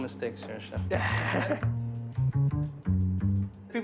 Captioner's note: laughs